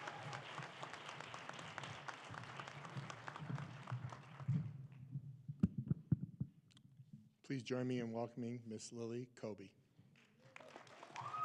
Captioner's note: applause